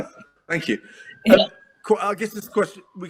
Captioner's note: laughs